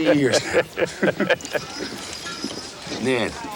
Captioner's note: both chuckle